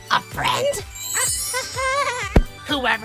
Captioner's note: laughs, kind of weirdly